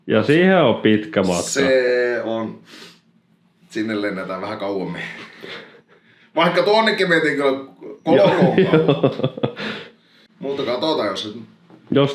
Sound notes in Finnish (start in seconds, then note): 2.6 niiskauttaa